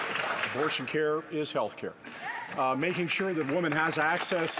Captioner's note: some Applause